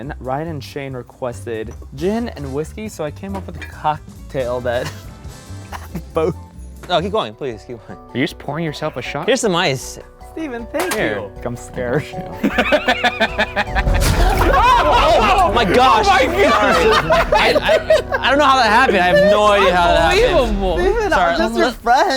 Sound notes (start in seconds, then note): 12.7 laughing